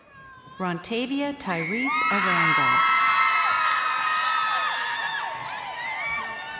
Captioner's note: crowd cheering